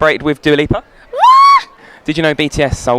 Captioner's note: screams